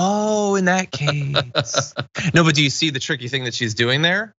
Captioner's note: laugh